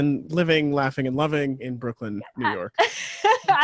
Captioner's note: laughs